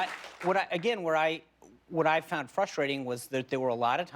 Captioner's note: applause